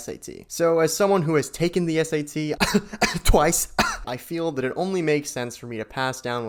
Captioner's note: twice *hack cough